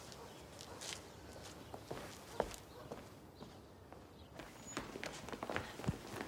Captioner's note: birds chipping; dog barks distantly